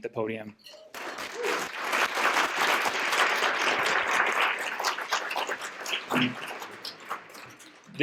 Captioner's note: applause